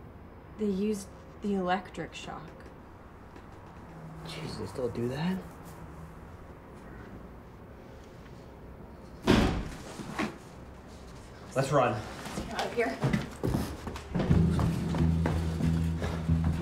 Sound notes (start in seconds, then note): 9.2 door slams